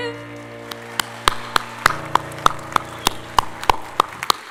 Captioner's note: audience applauding